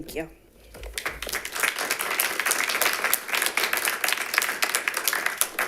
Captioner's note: members clapping